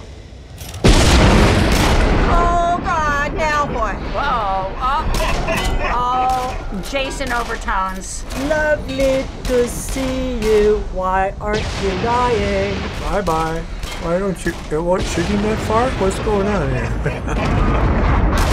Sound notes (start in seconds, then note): 0.8 loud thunderclap; 4.7 figure chuckling; 16.4 chuckles